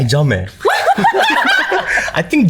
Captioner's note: laughter